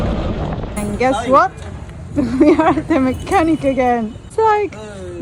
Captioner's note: auto engine; laughing